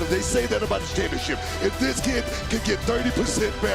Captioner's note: none